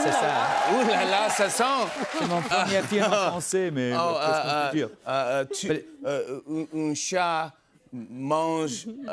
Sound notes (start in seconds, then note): 0.0 cheers and applause; 2.1 speaks French; 5.7 speaking French hesitantly